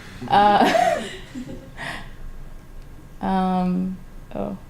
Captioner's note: laughter